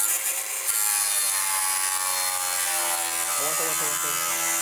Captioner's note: taladro